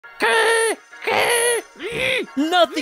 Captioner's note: grunting